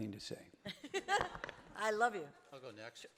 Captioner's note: audience laughing